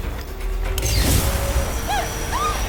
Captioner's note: light whooshes; vampire groans loudly